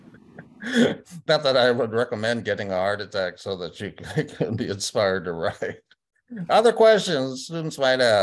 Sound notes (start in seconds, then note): 4.0 laughter